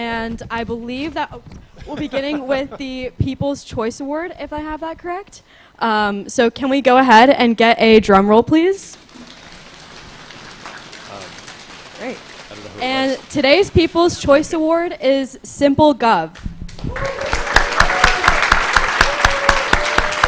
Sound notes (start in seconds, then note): 8.9 applause; 16.7 applause, cheering